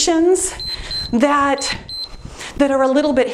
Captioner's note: timer beeps